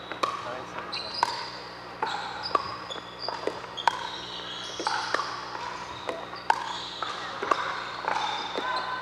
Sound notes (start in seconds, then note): 2.0 ball bouncing